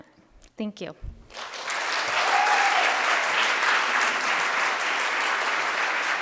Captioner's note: audience cheering and applauding